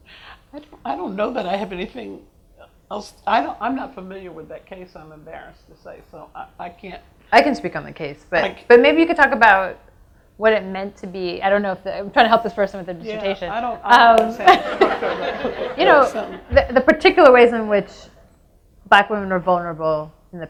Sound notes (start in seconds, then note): 14.4 audience laughs